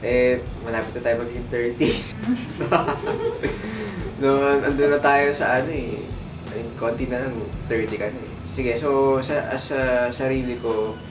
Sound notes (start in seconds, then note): 1.8 laughs